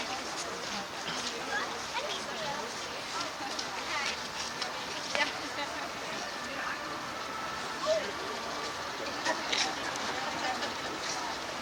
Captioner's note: street noises, inaudible talking